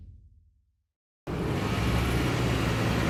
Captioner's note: street traffic sounds